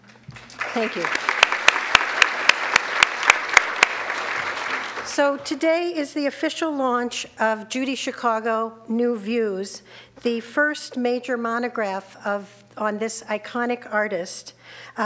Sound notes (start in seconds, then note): 0.3 audience clapping